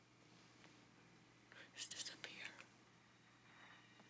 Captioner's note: whispering